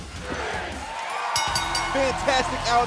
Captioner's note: bell ringing